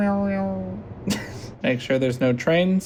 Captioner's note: laughter